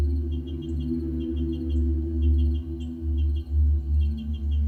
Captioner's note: birds chirping